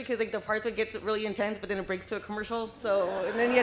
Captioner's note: laughter